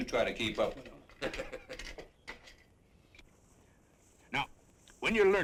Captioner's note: kid laughs